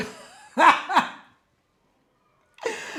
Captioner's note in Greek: Γέλια